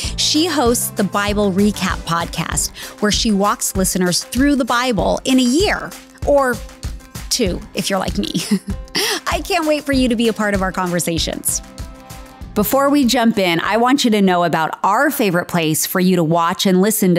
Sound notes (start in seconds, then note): 8.3 chuckling